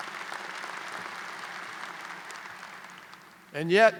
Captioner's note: applause